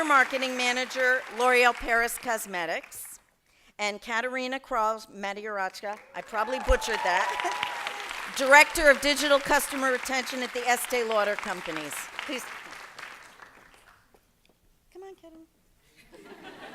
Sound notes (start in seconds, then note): 5.8 applause; 16.0 laughter